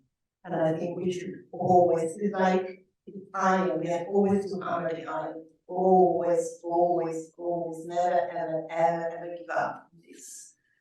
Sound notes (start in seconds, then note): none